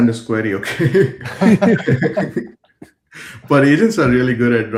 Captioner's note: laughter